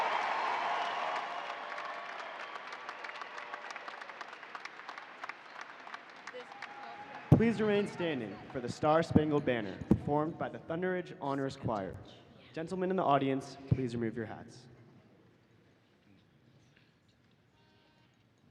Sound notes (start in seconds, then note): 5.8 applause